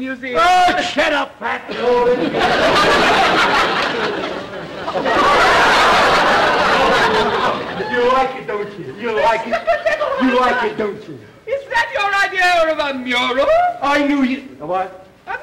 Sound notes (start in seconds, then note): 2.1 audience laughter